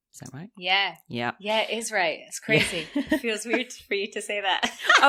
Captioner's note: laughs